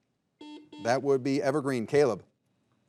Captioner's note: buzzer buzzing